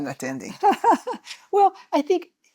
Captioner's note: laughter